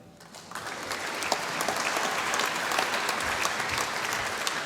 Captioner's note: applause